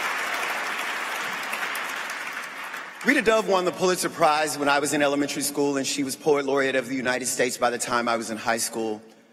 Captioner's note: applause